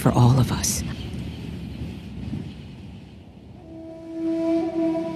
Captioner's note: wind blustering; gentle music